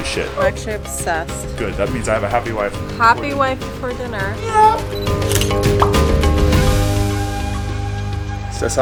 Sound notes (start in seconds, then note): 5.0 camera snapping photo; 5.8 bubble popping lightly; 7.0 energetic full music continues